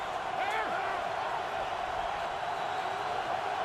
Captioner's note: crowd cheering